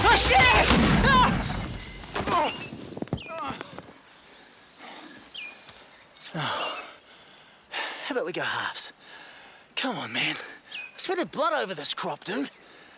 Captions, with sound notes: - Oh, shit! (explosion rumbles) (Gary shouts) (Gary groaning) (birds chirping) (Gary sighs) How 'bout we go halves? Come on, man. I sweated blood over this crop, dude.